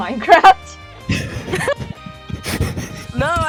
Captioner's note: laugh